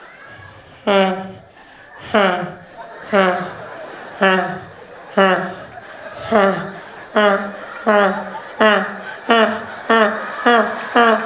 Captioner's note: escalating sound of a vuvuzela